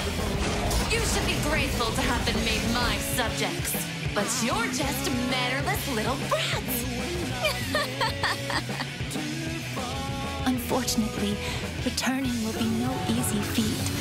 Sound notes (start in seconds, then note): 5.6 laughs nastily